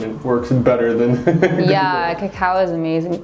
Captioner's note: giggles